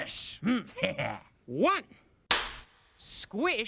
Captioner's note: cracks pointer